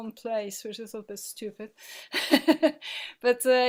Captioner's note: laughing